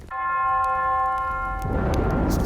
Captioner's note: bell ringing